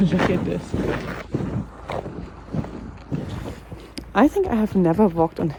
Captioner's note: shoes scraping